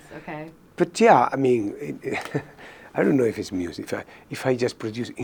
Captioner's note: chuckles